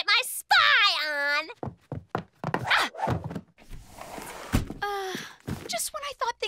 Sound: sighs

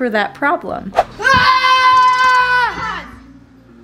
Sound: kids yelling

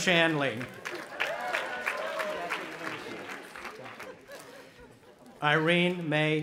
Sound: audience applauding and cheering

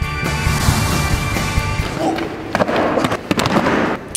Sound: SFX of students hitting the mats and handcuffs

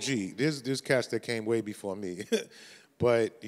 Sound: chuckles

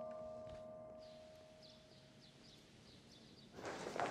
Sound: birds chirping

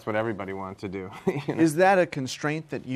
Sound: laugher

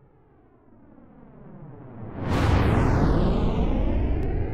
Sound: rocket blasting

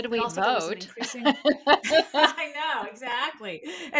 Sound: laughing

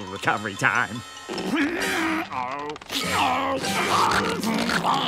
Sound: groaning

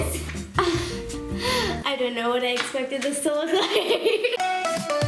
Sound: laughing; upbeat music

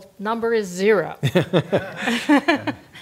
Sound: laugh

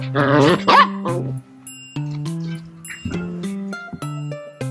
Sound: sheltie baby barking

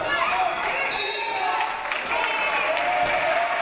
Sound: referee blows whistle; audience applauding

